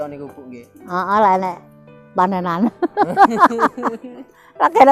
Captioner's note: laughs